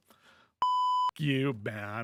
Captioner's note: beep